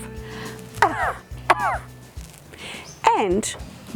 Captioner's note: caughs